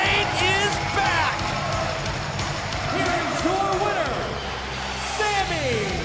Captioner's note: crowd cheering